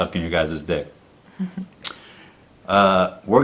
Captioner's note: giggles